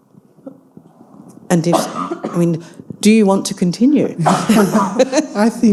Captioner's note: laughs